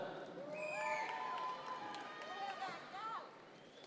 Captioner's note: audience members cheer